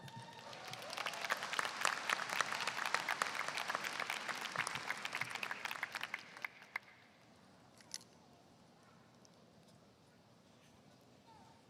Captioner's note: applause